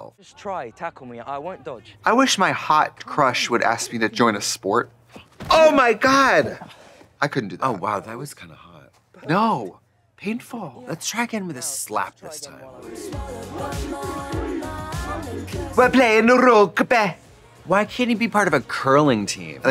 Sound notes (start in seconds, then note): 15.8 Scottish accent